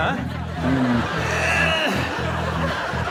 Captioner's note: groans